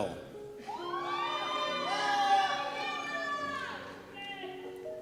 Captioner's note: cheers